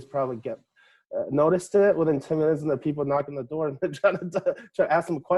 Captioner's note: laughing